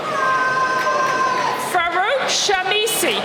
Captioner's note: audience yelling